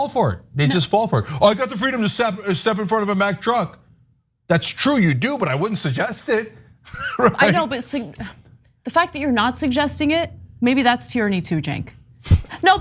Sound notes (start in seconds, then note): 6.9 laugh